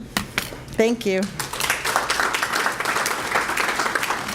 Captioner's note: applause